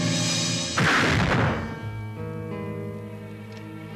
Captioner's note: shotgun fires